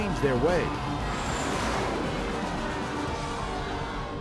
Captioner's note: audience shouts